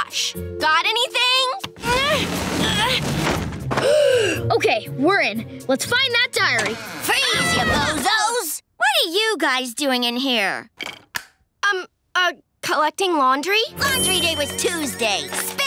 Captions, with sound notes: Got anything? [grunting] [gasping] Okay, we're in, let's find that diary. Freeze, ya bozos! What are you guys doing in here? Um, uh, collecting laundry. Laundry day was Tuesday! Spill it!